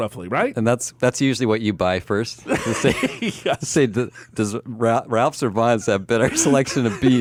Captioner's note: laughs